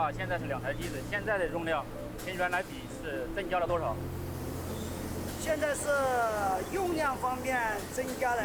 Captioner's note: speaking Chinese